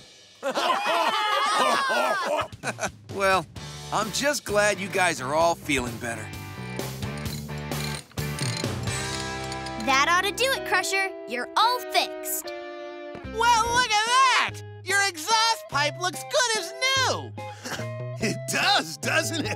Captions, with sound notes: [cheering, laughing] [chuckles] Well, I'm just glad you guys are all feeling better. [wrench cranking] That ought to do it, Crusher. You're all fixed. Well, look at that! Your exhaust pipe looks good as new! [chuckles] It does, doesn't it?